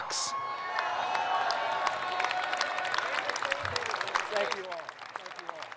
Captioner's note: audience applauds